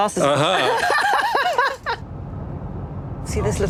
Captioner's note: laughs